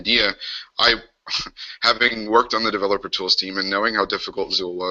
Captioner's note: chuckles